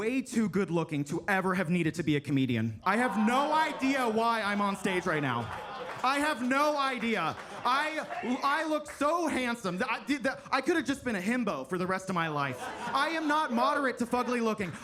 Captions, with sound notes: way too good-looking to ever have needed to be a comedian. I have no idea why I'm on stage right now. (attendees laugh and clap) I have no idea. I look so handsome that I did the... I could have just been a himbo for the rest of my life. I am not moderate to fugly-looking.